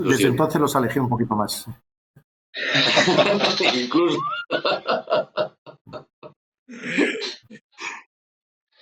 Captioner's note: laugh